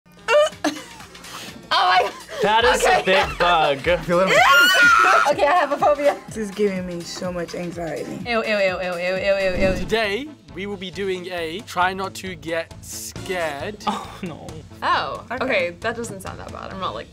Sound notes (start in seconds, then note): 0.8 laughs; 4.2 screams